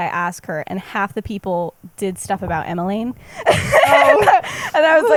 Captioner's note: laughs